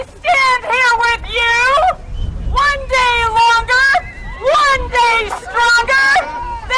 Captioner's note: applause